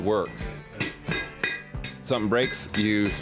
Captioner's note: metal tapping